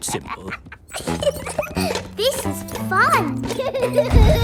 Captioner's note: giggles